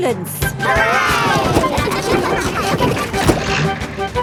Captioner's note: giggling